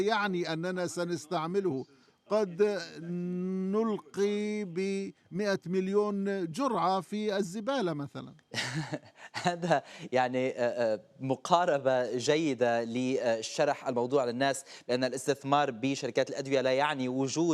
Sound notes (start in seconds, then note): 8.5 anchor laughing